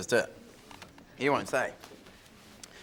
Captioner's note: none